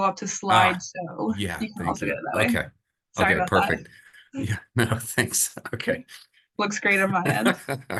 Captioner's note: chuckles